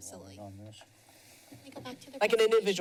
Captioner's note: background chatter